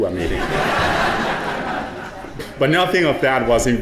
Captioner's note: audience laughing